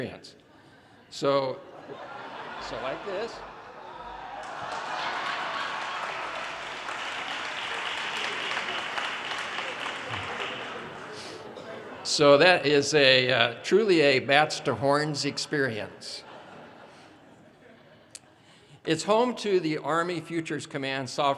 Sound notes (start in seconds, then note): 5.7 audience laughter; 8.4 audience cheers and applause; 16.1 audience laughter